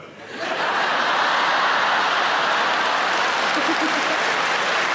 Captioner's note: audience applauding